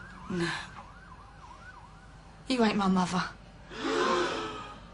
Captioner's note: gasps